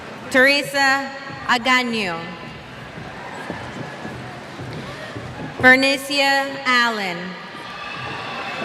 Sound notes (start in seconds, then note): 2.1 cheers